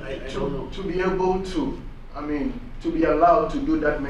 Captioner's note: voiceover